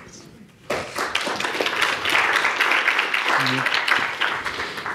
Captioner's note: audience applauds